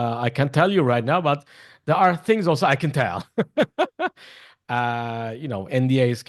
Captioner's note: laughs